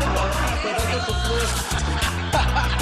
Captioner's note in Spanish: risas